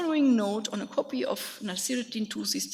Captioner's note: speaks in a foreign language